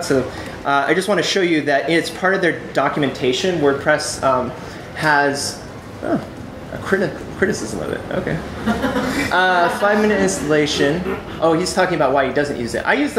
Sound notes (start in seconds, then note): 4.9 chuckles; 10.7 audience chuckles